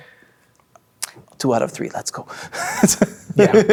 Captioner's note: laughing